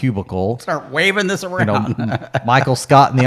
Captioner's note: chuckling